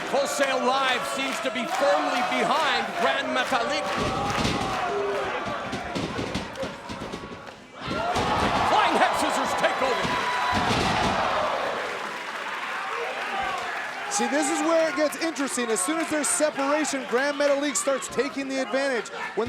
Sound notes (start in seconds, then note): 10.4 crowd cheering